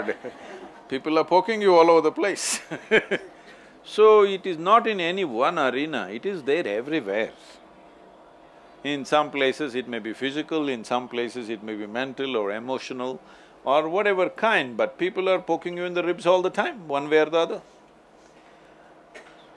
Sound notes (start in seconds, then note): 3.7 laughs